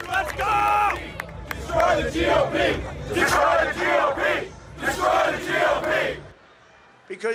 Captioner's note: cheers and applause